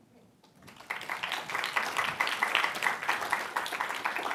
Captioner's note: applause